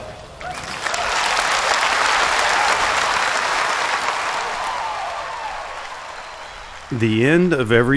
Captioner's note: applause